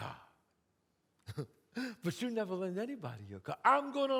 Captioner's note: giggles